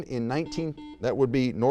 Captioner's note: buzzer beeps